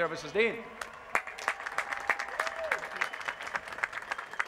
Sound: applause

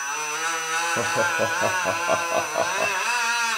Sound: propeller whirring; laughs

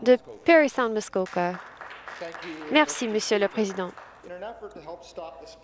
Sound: some Applause

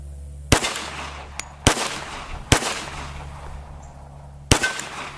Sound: gun shots

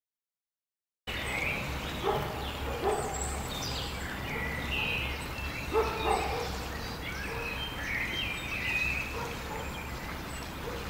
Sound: sound of river

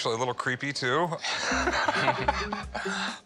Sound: chuckling

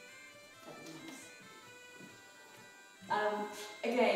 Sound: slapping thigh

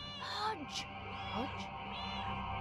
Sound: Hodge meows; Hodge meows

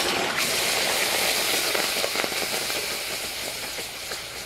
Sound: sizzling

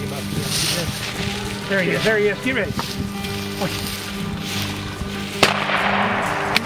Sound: pow

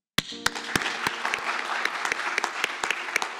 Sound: applause

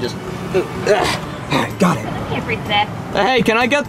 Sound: grunts

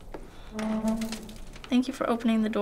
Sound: door creaks

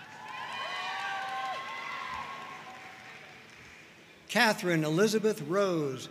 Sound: audience cheering and applauding

